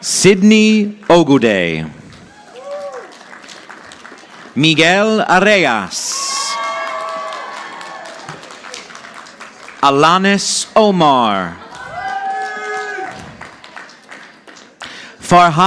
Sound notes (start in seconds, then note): 2.2 audience applauding; 11.5 audience applauding